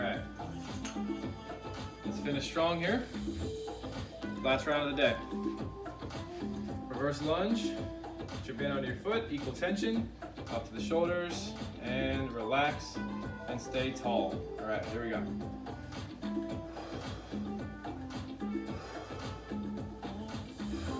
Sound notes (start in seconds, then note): 1.0 upbeat music; 3.9 upbeat music; 6.2 upbeat music; 15.6 breaths heavily; 15.9 upbeat music; 18.8 breaths heavily; 18.8 upbeat music; 20.8 breaths heavily; 20.8 upbeat music